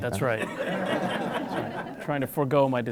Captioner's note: laughs